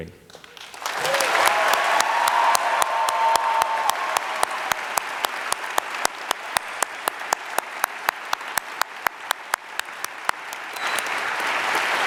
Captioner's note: applause